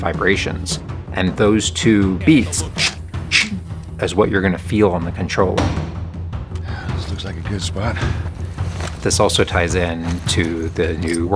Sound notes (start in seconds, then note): 2.5 suono di arma